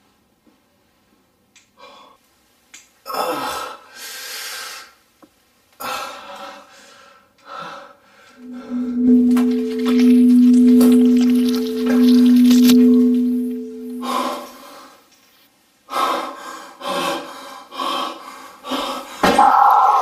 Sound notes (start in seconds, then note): 4.8 groaning; 10.8 high pitch sound; 15.8 labored breathing